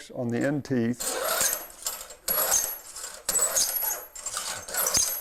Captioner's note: metal-on-metal scraping